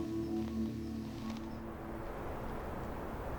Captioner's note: heavy winds